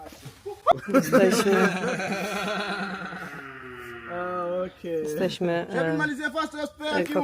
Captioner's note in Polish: śmiech